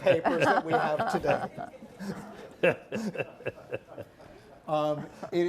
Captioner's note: panelists laughing